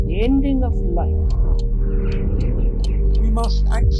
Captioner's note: clock ticks